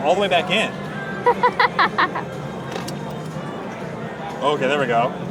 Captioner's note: laughs